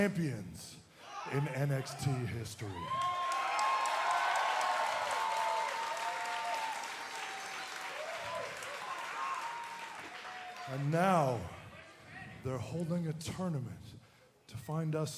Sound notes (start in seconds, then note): 2.7 cheers and applause